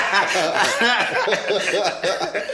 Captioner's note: everybody laughs